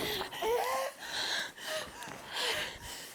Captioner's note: exhausted breathing